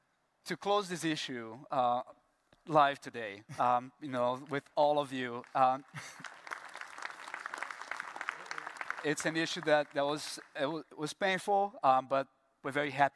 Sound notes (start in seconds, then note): 5.3 applause